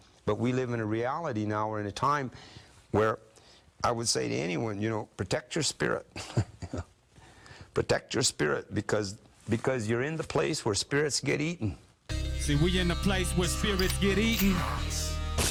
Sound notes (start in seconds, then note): 6.2 chuckles; 12.1 brooding hip hop music